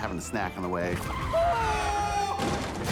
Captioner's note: screams